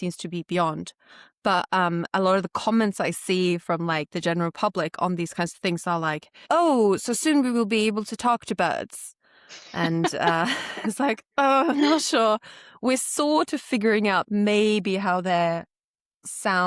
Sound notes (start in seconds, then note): 9.7 laughter